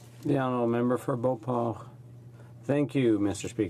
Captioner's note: speaking French